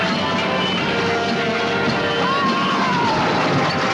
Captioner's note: screaming